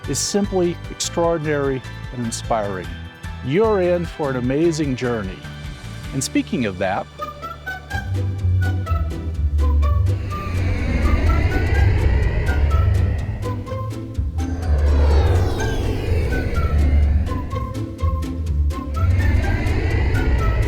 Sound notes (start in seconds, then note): 8.0 cheery plucky music; 11.9 airplane soaring